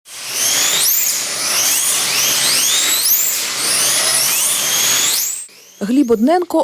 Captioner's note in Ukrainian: Їздить машинка